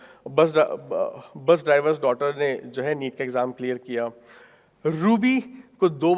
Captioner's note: speaking in foreign language